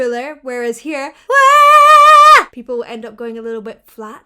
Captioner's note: vocalizes